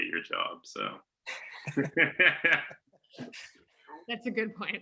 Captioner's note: all laughing